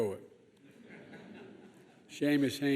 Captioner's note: laughter